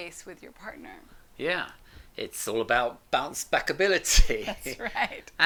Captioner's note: laughs